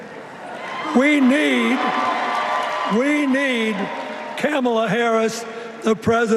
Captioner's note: cheers and applause